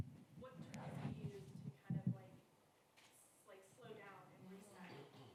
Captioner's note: speaking faintly